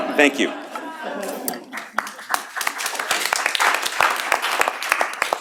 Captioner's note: applause